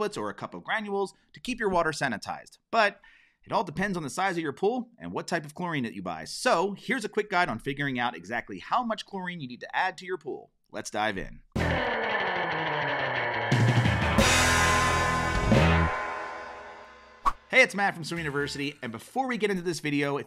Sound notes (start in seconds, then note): 11.6 upbeat music; 17.2 transition whooshing